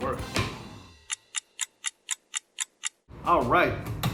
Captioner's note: clock ticking